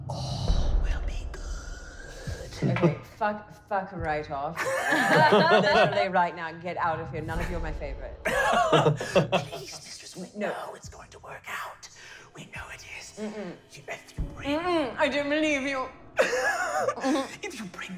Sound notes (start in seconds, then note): 4.6 laughing; 8.3 laughing; 14.3 whispering mysteriously; 16.2 laughing